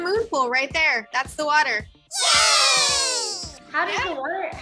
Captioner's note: mice cheer